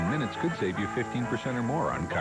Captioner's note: all chattering